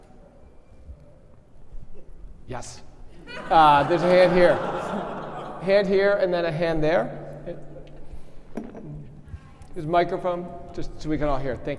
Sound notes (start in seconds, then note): 3.2 audience laughing